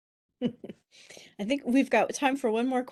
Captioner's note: chuckles